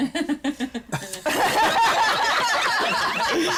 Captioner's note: laughter